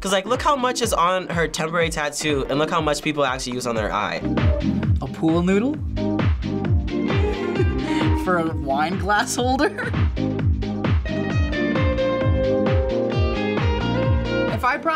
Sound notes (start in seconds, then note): 7.2 laughs; 10.4 upbeat music